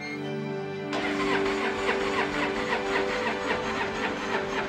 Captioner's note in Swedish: motorn klickar